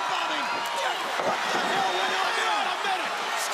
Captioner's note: crowd chatter